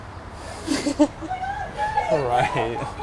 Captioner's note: laughing